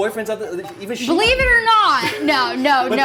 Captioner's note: chuckles